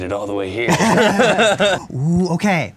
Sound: laughing

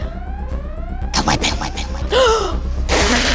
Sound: echoes; gasps

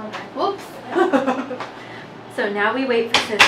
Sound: laughs

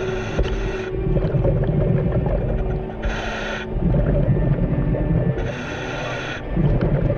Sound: nervous music; water bubbling; scuba mask hissing

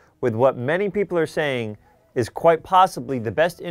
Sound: none

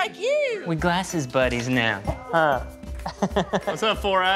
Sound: laughs

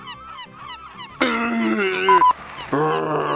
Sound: barfs

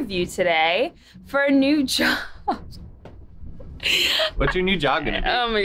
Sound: laughs

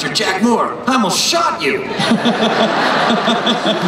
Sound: laughter

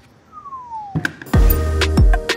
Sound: whistles; rhythmic electronic music

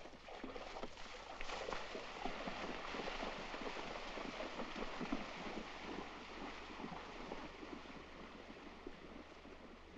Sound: hooves splashing in water

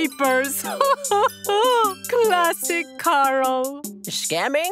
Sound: laughing

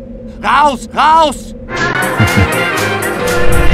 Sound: chuckle

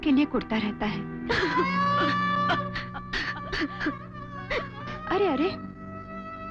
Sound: sobbing

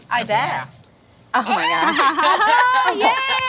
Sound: laughing

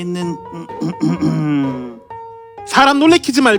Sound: cough

